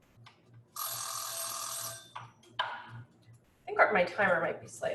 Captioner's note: timer chiming